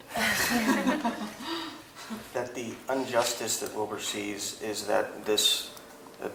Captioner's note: laugh